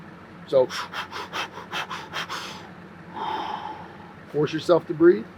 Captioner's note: rapid, brisk breathing